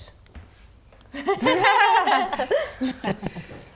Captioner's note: laughing